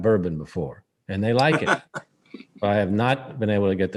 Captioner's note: laughs